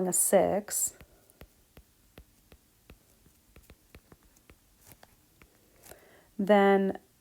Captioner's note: pen clicking